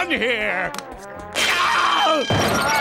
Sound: screaming

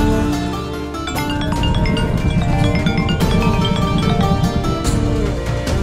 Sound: tense music playing; mobile ringing

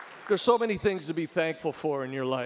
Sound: audience applauding

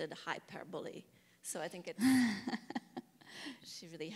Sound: laughs

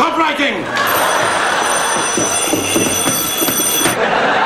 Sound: alarm clock starts ringing

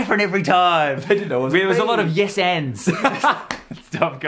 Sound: laughs

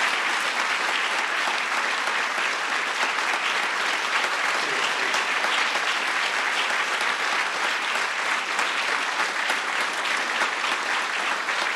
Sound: applause

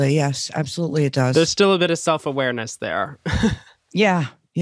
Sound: chuckles

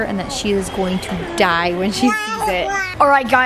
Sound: Blake blabbering

